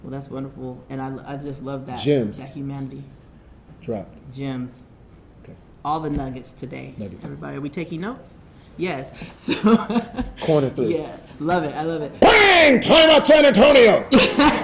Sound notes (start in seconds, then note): 9.3 chuckles; 14.0 audience laughing